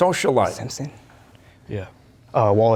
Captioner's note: whispering